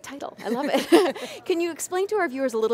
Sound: laughs

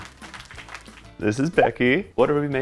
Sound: applause; bubble pops

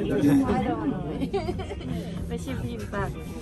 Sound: laughs

